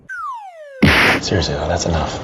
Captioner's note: boom